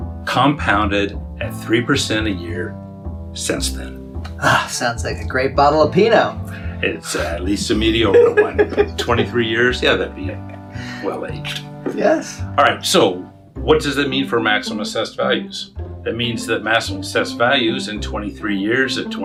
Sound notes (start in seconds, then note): 7.0 laughs